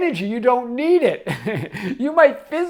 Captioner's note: chuckles